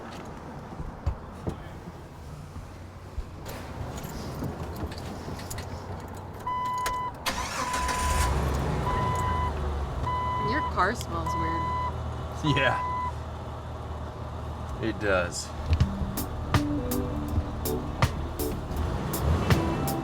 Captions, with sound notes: (traffic continues rumbling) (car beeps) (car engine revs) - Your car smells weird. - Yeah. It does. (slow reggae music)